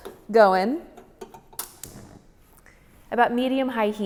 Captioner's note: oven clicking